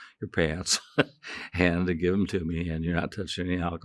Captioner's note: chuckling